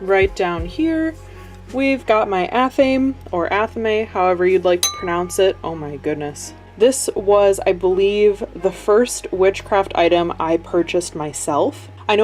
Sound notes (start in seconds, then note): 4.8 glass dings